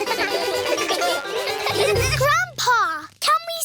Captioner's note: all giggle